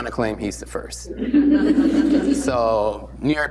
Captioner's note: laughter